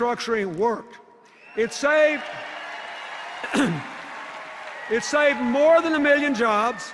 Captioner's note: cheers and applause